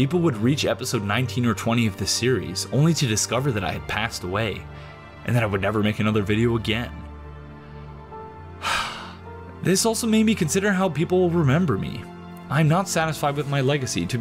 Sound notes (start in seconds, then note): 8.6 sighs